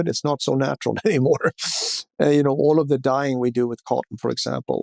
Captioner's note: laughs